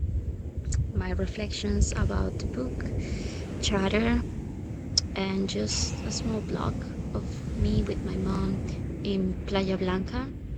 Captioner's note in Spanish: Cháchara